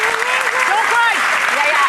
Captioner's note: audience clapping